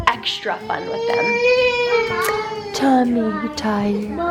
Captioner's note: crying